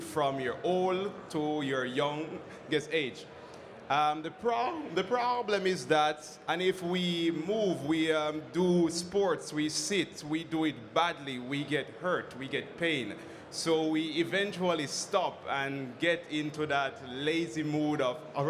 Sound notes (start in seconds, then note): none